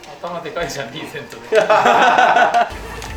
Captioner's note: laughs